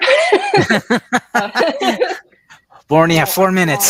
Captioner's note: everyone laughs